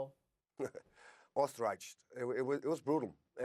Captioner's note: chuckling